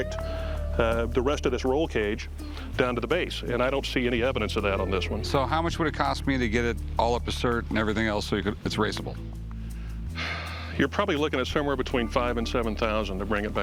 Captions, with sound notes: It's supposed to connect the rest of this roll cage down to the base. And I don't see any evidence of that. So how much would it cost me to get it all up to cert and everything else so it's raceable? [sighs] You're probably looking at somewhere